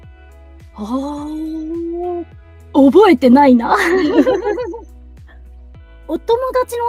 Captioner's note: laughs